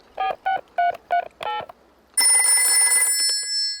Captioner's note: dialing; rings